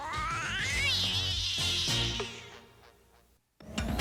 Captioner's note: m.a.d. cat screeches